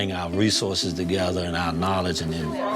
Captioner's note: overlapping chatter